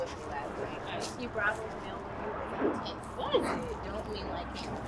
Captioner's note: faint chattering